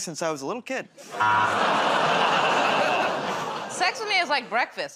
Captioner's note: audience "Oh"s; buzzer